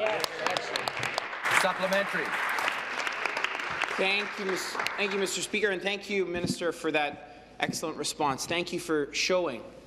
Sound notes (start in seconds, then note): 5.2 applause